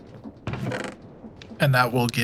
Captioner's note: crate opening